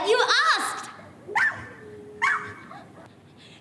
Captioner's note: dog barks